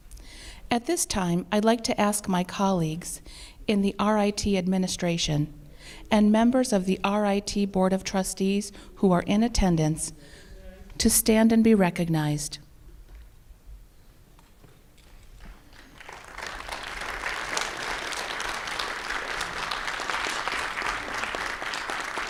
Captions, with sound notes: At this time, I'd like to ask my colleagues in the RIT administration and members of the RIT Board of Trustees who are in attendance to stand and be recognized. [Applause]